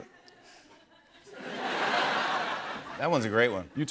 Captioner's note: laughter